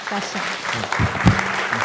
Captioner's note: audience applauding